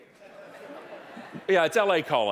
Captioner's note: audience laughing